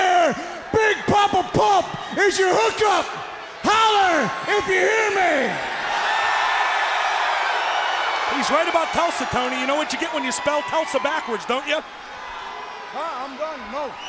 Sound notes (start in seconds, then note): 4.9 crowd chatter; 11.0 crowd cheering